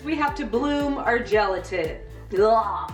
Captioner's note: repulsed noise